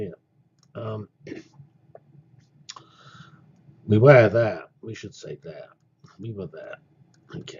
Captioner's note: cough